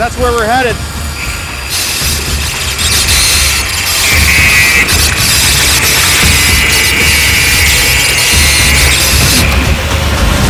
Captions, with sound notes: That's where we're headed. (saw buzzing) (dramatic music)